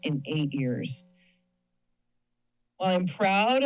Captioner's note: pause